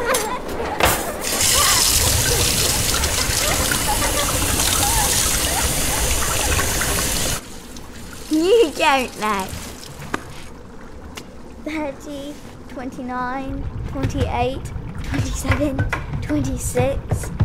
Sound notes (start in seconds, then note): 1.4 water running